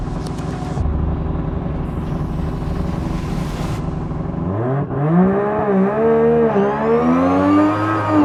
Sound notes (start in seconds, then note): 4.5 car revs